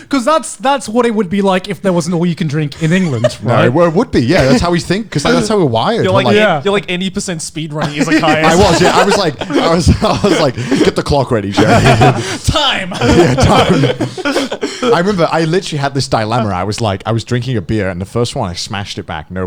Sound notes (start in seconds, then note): 11.4 all laughing